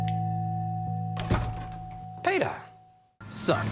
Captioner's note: doorbell rings